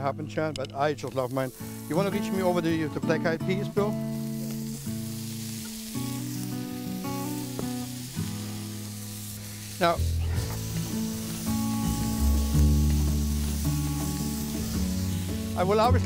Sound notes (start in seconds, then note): 5.5 sizzling